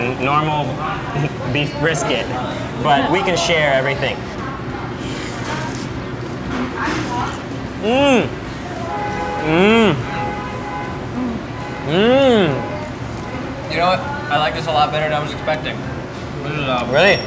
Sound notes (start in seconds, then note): 4.6 slurps noodles; 9.4 groans in delight